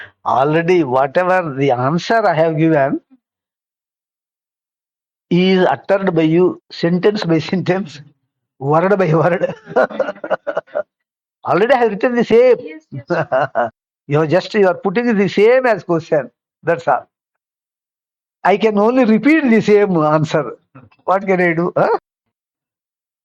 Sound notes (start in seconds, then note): 9.1 laughs